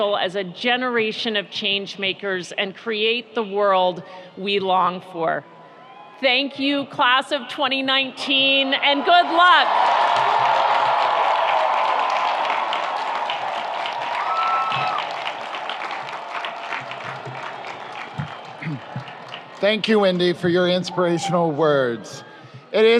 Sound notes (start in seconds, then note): 10.6 audience applauds; 10.6 audience cheers